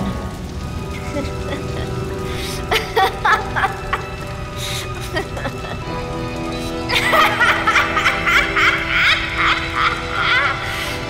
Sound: Apate laughs maniacally

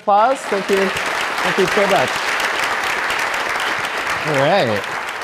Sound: audience applauds

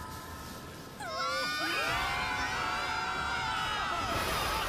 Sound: screaming

